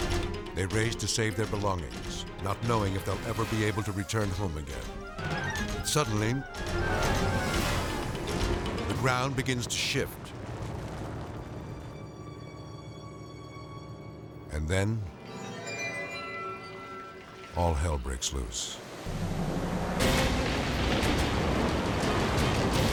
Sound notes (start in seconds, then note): 7.1 thrilling music; 11.3 ground rumbling; 15.2 eerie music; 18.8 thrilling music